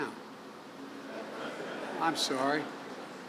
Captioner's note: laughter